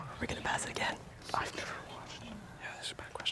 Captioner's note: whispering